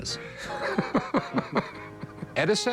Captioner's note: laughter